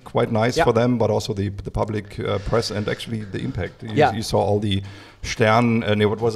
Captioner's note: German 0:15:32